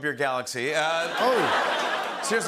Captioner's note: laughter